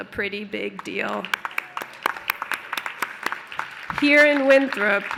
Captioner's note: applause